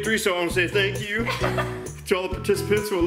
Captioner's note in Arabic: يضحك